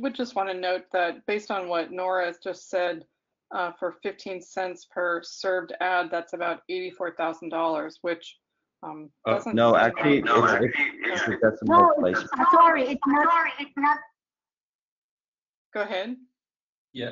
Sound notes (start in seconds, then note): 9.2 video echoes